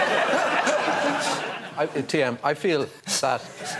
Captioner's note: laughter